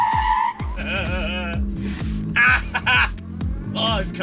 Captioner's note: laughing